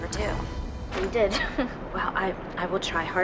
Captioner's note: anxious chuckle